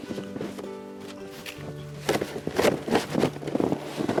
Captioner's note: crunching snow